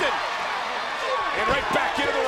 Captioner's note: crowd cheering; wrestler grunting